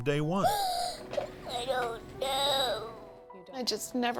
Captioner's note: sobs